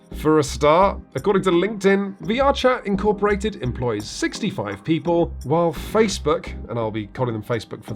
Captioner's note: none